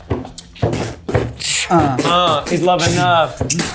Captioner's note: beatboxing